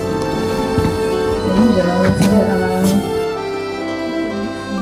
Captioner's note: speaking Italien